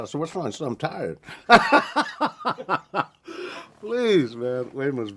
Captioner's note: laughing